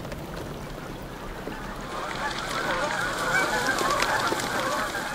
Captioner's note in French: cris des outardes